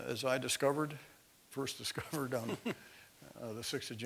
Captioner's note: laugh